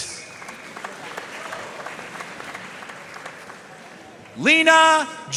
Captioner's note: audience cheering and applauding